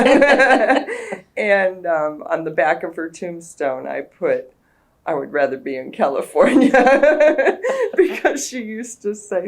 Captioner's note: laughter